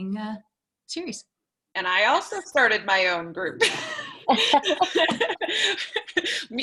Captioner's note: laughter